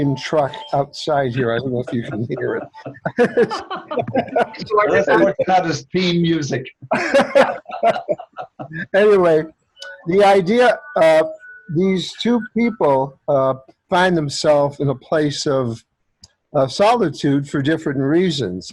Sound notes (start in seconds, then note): 6.8 laughter